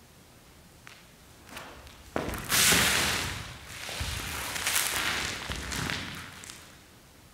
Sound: skittles scattering across the floor

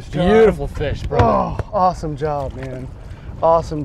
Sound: groans

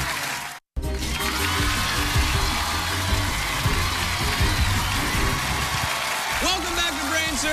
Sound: crowd cheering

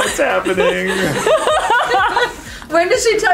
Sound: women laugh

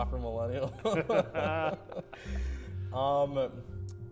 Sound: laughter

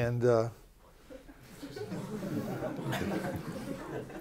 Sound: laughter

